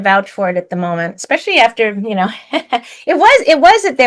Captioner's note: laughs